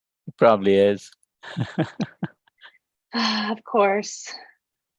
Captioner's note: laughs